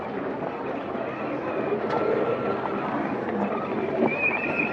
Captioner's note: people chattering